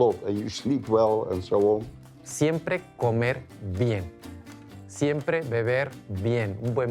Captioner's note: in Spanish